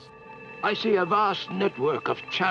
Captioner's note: male Voice